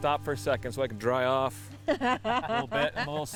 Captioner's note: laughs